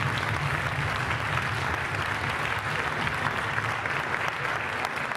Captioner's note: applause